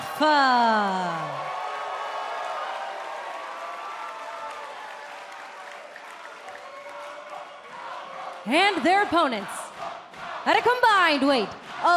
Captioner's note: cheers and applause